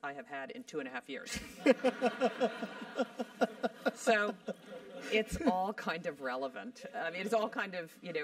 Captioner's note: laugh